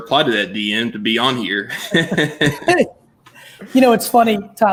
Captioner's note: chuckles